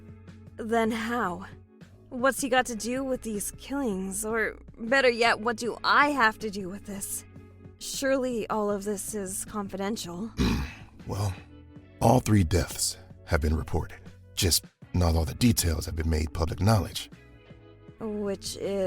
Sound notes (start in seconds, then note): 10.4 clears throat